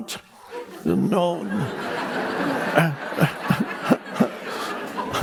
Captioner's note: audience laughing